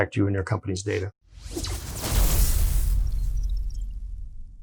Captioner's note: futuristic sounds